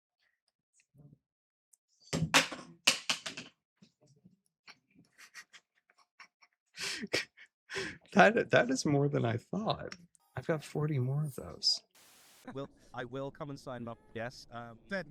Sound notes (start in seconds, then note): 1.9 canister clatters to the floor; 5.0 snickers